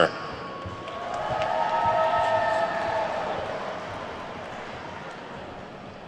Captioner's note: attendees whooping and clapping